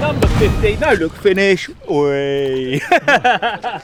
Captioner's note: laughing